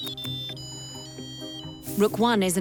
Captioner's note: machine beeping